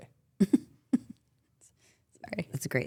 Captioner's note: Stephanie chuckles